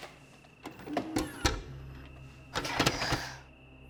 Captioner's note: VCR whirs